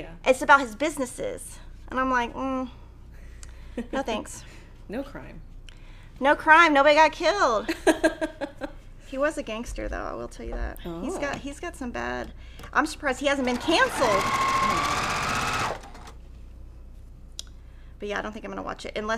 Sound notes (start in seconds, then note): 7.6 laughing; 15.1 sewing machine resounding